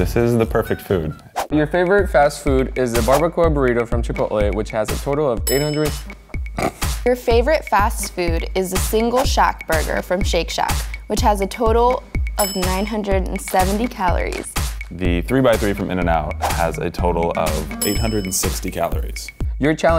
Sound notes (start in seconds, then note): 6.5 laughs